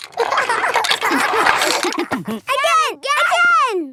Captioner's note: laughter